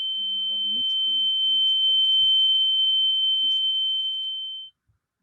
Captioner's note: sharp electronic beeping